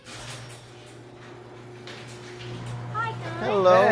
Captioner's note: garage door opening